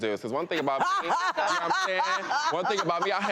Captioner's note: laughing